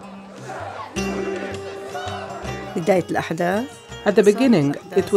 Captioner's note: crowd shouting